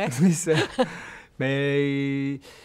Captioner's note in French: rires